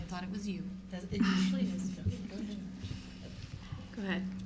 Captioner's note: giggles